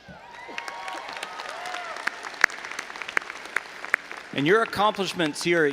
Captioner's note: audience applauding and cheering